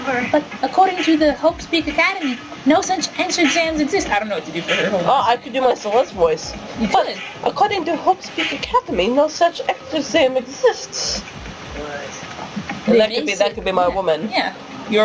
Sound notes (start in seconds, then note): 0.2 D!Sonia, high pitched; 6.8 SL!Sonia, accented